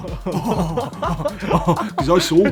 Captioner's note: laughing